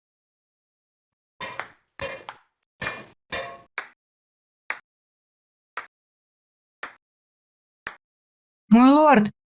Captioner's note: hitting a metal surface with a hammer